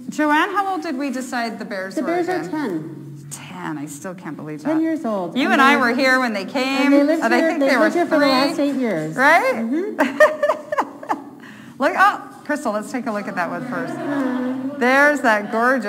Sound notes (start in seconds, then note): 13.1 laughing